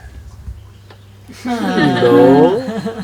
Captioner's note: laughter